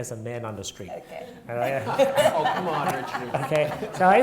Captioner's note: audience laughing